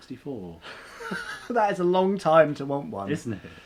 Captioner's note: laughs